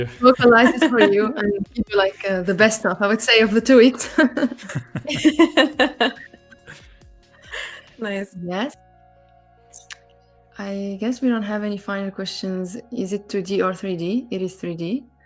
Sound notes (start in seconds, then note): 4.0 laughter; 4.0 laughs